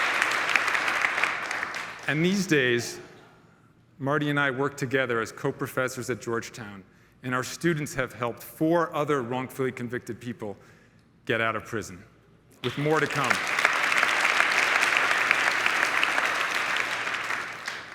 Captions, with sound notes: And these days, Marty and I work together as co professors at Georgetown, and our students have helped four other wrongfully convicted people get out of prison, with more to come. [crowd applauding]